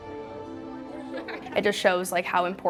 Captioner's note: laughing